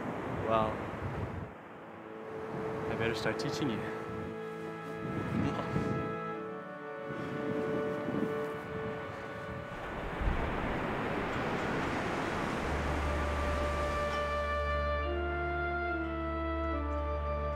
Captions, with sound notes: - Well, I better start teaching you. (soft music) (waves crashing)